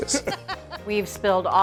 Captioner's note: cooks laughing